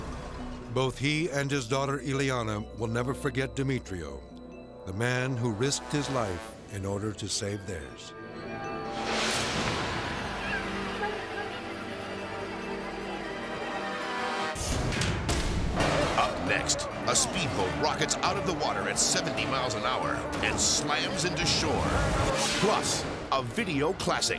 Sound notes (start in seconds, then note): 9.3 dramatic music; 9.3 onlookers shouting